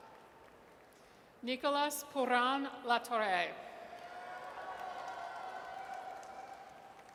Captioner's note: audience cheers